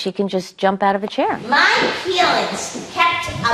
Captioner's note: none